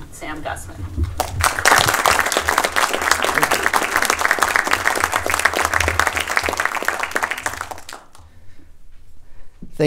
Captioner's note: applause